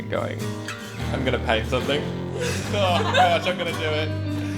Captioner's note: laughter